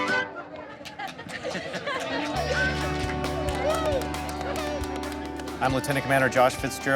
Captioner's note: laughing; clapping